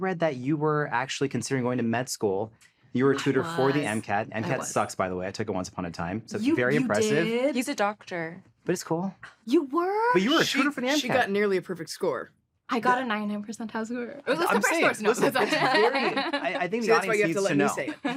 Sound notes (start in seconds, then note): 15.0 laughter